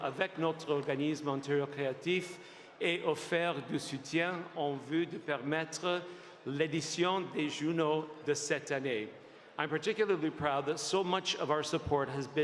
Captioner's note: applause; speaking French